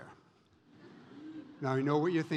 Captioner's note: audience laughs